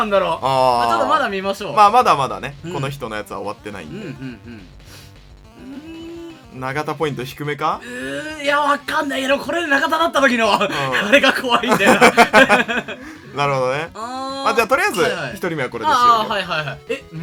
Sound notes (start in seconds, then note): 10.5 laugh